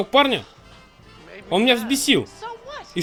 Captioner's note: sighs